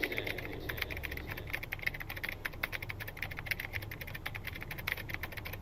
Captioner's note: typing